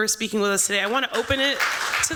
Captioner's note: applause